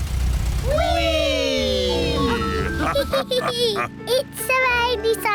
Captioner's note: all laugh